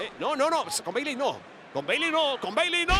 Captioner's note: none